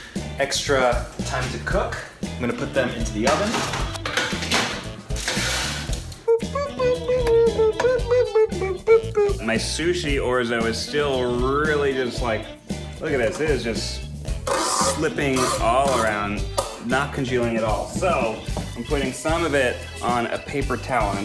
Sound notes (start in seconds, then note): 6.2 humming